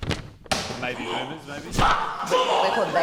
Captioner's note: grunts